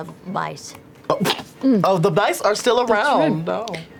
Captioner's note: laughs